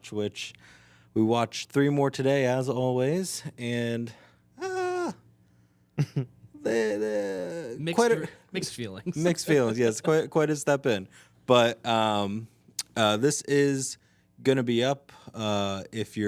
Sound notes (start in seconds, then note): 4.6 sighs; 6.5 laughing